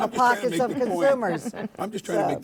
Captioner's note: panelists laughing